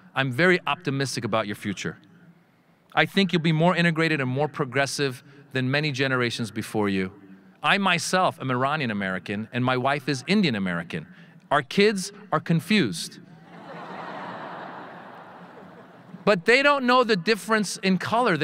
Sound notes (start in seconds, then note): 13.4 audience laughing